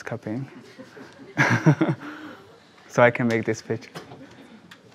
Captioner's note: laughs